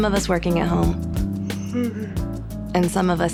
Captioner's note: yawning